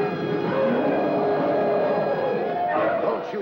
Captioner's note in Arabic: موسيقى درامية; زئير الفيلة